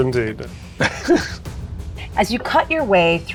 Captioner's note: chuckling